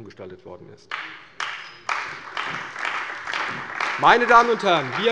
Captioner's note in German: Beifall bei der CDU und dem BÜNDNIS 90/DIE GRÜNEN